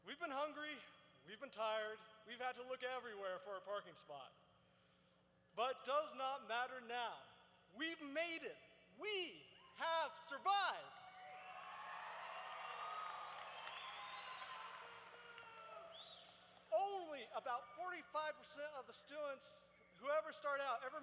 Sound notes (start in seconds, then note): 12.4 cheers